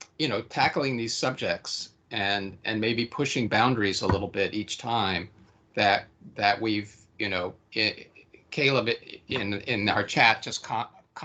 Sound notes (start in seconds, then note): none